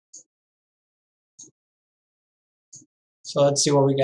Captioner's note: mouse clicking